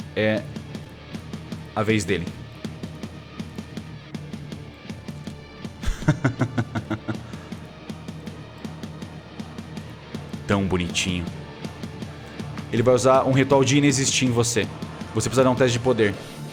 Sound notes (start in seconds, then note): 5.8 laughs